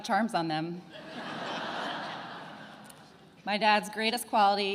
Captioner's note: attendees laughing